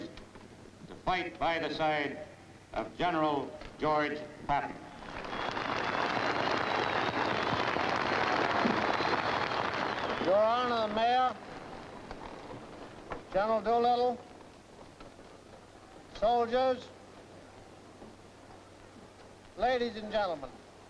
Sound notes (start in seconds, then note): 5.0 audience cheers